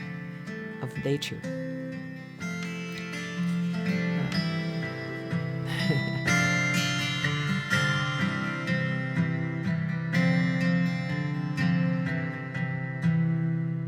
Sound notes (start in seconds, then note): 5.6 laughing; 6.7 gentle guitar music